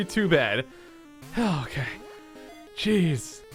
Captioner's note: sigh